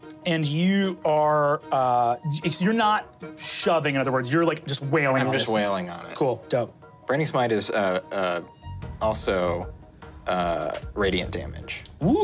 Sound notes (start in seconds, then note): none